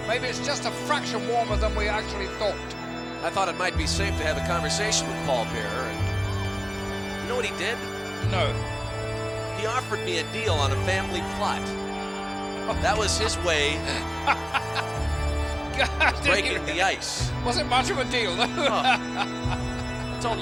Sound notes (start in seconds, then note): 12.7 laughs